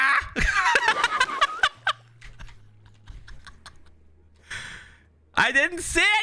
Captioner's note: laughing